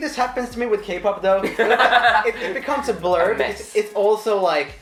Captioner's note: laughing